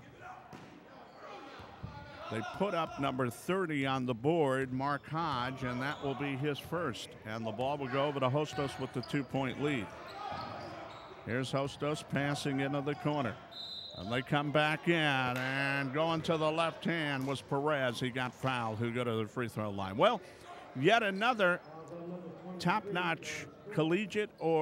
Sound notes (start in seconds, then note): 0.2 ball pounding; 0.2 yelling; 8.5 shoes squeaking; 9.9 yelling